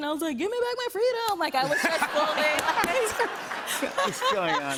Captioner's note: laughter